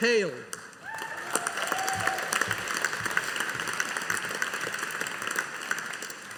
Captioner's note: audience applauding